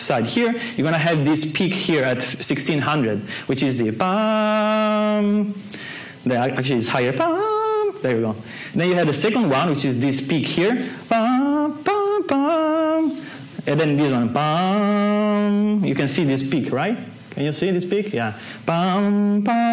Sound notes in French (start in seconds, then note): 3.0 imite le son; 6.0 imite le même son mais plus aigu; 12.5 imite le son